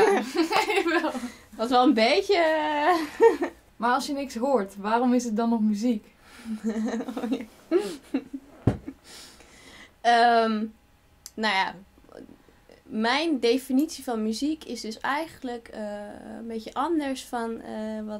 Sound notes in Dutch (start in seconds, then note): 0.0 lacht; 2.9 lacht; 6.4 Interviewer grinnikt; 6.5 lacht